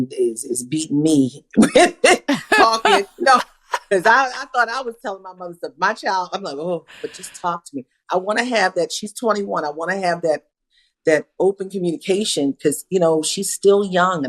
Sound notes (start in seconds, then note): 1.6 laughter